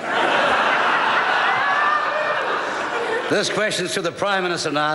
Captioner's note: members laugh